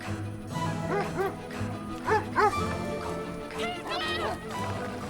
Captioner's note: dogs barking